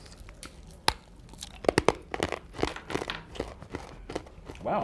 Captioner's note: crunching